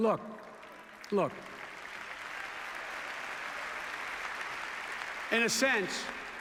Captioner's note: applause